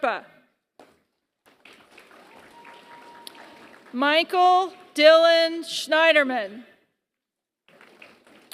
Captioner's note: applause; applause